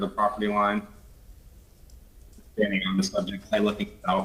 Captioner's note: ~audio cuts out~